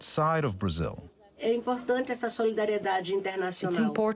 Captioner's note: through translator